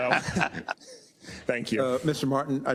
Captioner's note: laugh